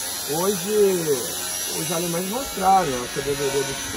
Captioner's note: construction noise